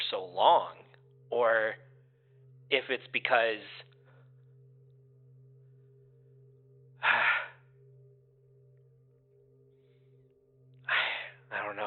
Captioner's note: sighs